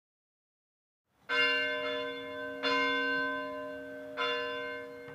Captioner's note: bell ringing